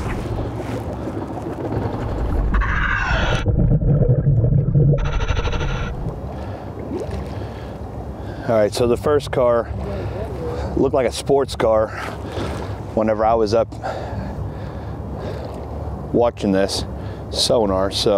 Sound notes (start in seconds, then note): 0.0 engine droning; 2.7 mouthpiece hissing; 2.7 ominous music continues